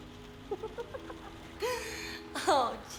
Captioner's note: Laura laughing